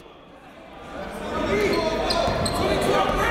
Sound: chatter

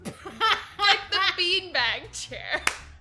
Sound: laughs

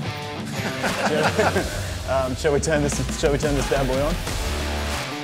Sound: laughing

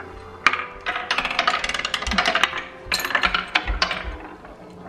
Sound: marbles falling

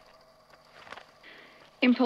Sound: papers shuffling

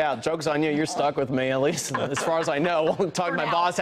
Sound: laughter

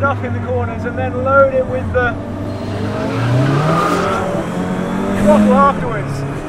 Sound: car engine roars

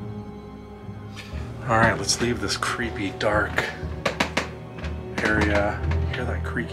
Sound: creaking sounds

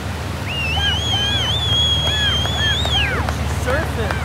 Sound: whistling

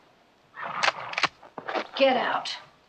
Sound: rifle cocks

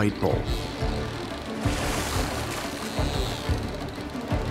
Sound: dolphins clicking

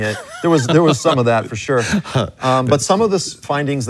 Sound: laughs

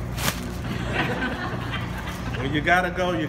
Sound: laughing

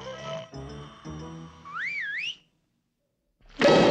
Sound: snoring; whistles

